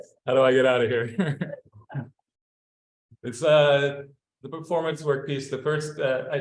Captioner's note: laughter; laughs